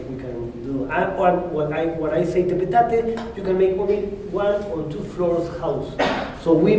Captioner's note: spanish